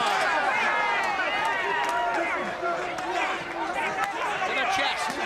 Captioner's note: crowd chatter